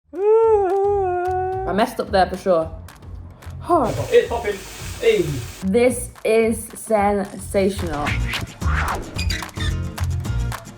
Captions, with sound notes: - [Disappointed Squeal] - I messed up there for sure. Hoh! - It's popping... hey! - This is sensational. (Upbeat Music)